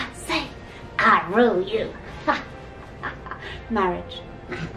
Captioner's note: laughs